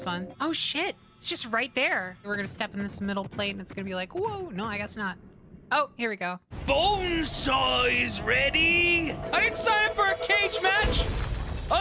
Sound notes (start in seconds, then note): 6.5 Bonesaw Voice; 9.2 Spider-Man Voice